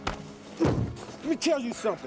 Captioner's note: Zac thuds